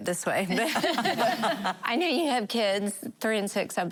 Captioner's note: laughing